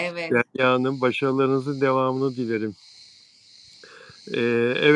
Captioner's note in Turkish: homurdanır